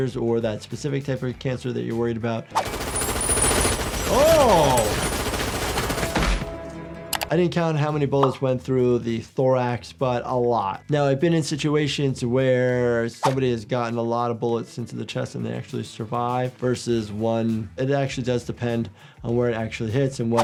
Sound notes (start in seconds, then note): 2.6 machine gun firing